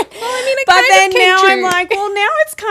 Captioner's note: laughing